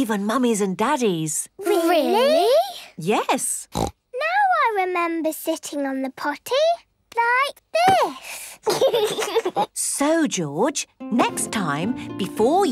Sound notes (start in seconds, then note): 3.7 snorts; 8.6 giggles